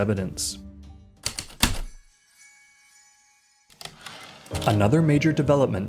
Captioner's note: heavy typewriter keystroke, light chimes, typewriter return slide